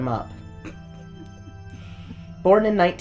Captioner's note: continues to snicker; snickers